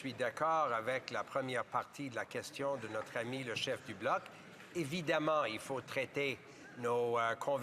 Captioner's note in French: voix de l'interprète